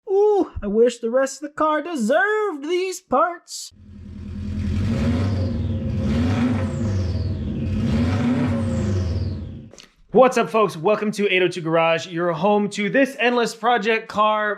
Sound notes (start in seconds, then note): 3.7 Much Subaru engine rumble!